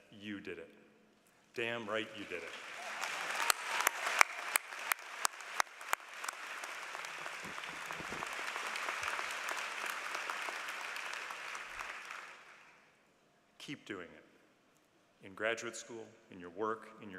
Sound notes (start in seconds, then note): 1.9 applause